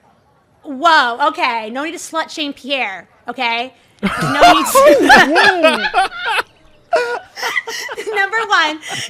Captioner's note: everyone bursts out laughing